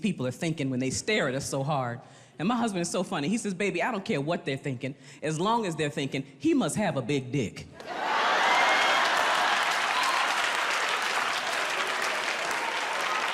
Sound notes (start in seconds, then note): 7.8 audience laughs and applauds